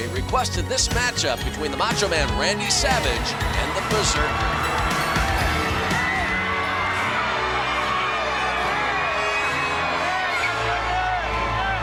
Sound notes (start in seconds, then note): 4.8 crowd cheering; 7.8 orchestral music